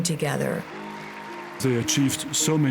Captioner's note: cheering and applause